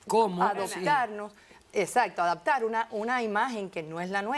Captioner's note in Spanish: Hablan al unísono